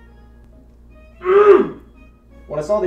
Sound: man with Mirror grunts

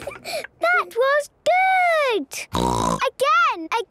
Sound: snorting

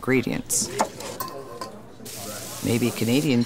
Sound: knife chopping; food sizzling

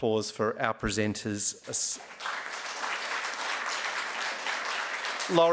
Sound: applause

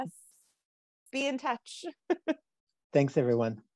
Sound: laughs

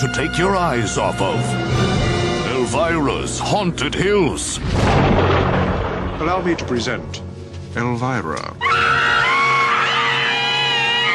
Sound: screams

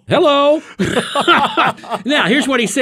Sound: hosts laugh

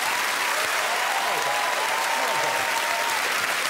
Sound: audience clapping and cheering

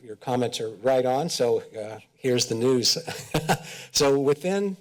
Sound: chuckles

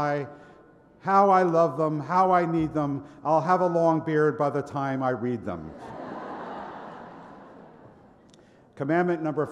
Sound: laughter

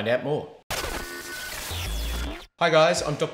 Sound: static noise

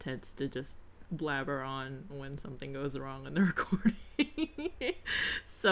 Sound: laughs

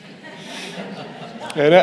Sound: audience laughing

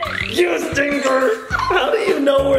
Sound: laughing

